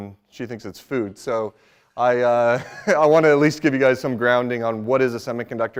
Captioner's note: laughs